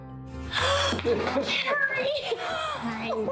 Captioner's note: gasps